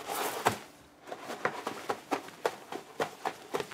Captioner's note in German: Schnelle Schritte